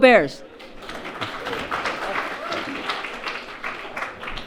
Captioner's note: audience applauds